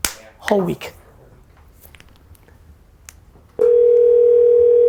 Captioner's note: phone rings